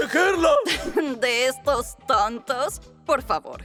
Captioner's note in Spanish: Burlándose